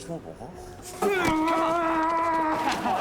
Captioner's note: growls; laughing